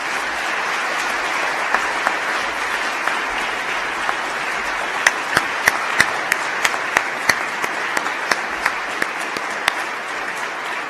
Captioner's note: applause